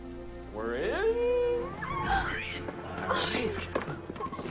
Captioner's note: gasping; giggling